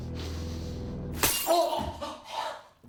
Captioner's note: glass shatters; Johnny exclaims